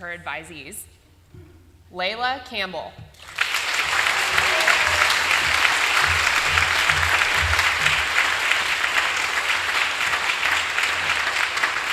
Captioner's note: applause